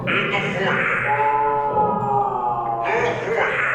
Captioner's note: victim screaming